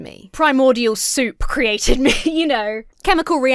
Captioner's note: laughs